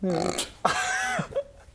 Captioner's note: desperate laugh